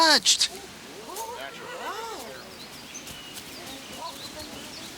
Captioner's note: congregation gasp and murmur